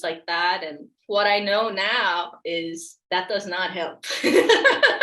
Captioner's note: laughs